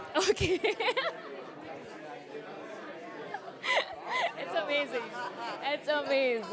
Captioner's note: laughs